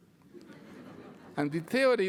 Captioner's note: laughter